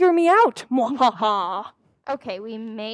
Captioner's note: laughs